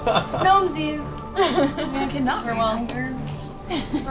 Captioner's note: laughter